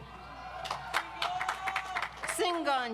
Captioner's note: audience applauds